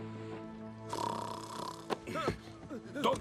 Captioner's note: snoring